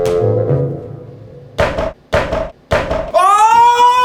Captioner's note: hitting